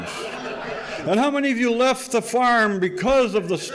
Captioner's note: audience laughing